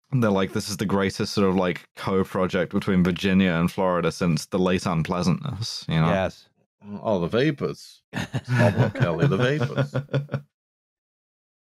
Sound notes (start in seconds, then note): 7.2 with a drawl; 8.1 laughter; 8.3 with a drawl